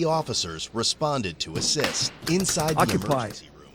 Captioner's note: stall door knob jiggles